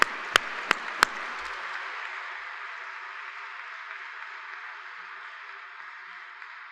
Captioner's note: applause